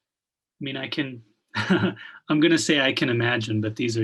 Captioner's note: chuckles